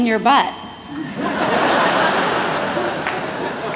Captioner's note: laughter